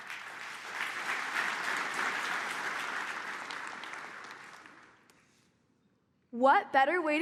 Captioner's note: applause